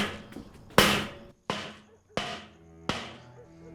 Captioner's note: bang continues